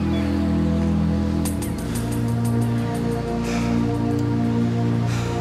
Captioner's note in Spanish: Respiración profunda